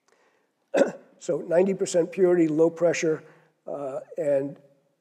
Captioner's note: cough